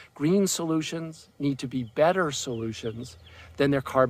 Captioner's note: none